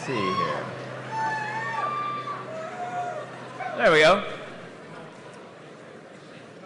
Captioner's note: cheering